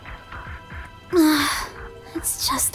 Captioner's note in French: soupir